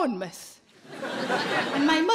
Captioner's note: audience laughing